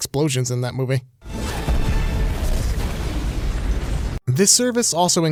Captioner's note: booming